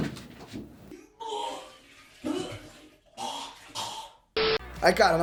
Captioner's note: vomiting sound